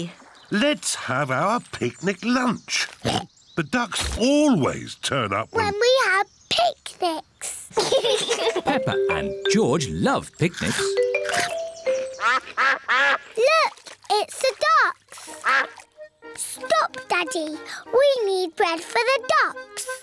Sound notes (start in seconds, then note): 3.0 oinks; 7.7 both laugh; 12.0 quacking